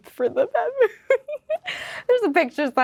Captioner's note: Lola laughing